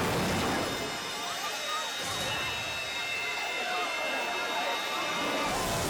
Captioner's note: onlookers screaming